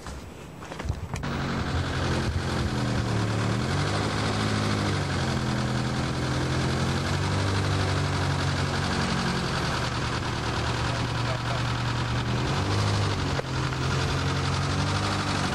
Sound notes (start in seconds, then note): 1.5 airplane propellers